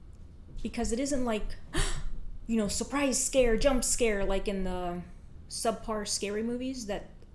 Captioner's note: gasp